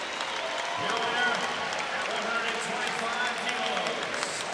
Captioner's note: crowd cheering and clapping